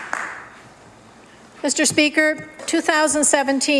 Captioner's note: applause